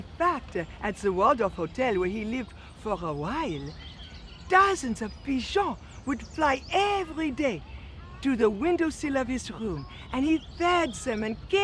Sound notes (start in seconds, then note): none